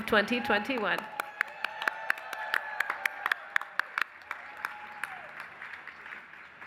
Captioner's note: applause